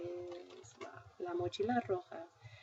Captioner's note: spanish; speaking spanish